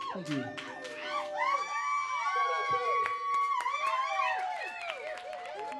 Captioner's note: crowd cheering and applauding